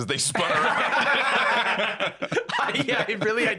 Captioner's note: all laughing